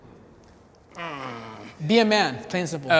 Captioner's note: grunts